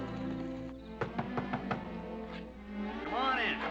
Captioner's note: Knocking